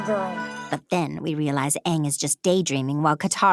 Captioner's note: in Azula's voice